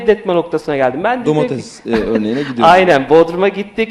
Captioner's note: laughs